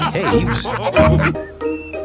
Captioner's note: all laughing